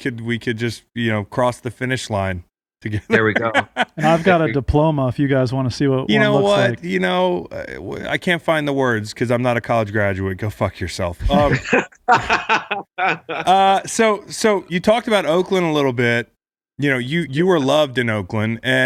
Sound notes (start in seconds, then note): 3.0 laughs; 11.3 all laugh